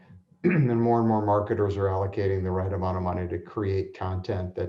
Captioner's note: cough